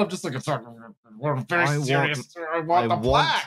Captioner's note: grumbles